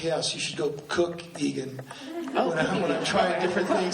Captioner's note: laughs